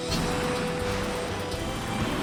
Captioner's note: thrusters roar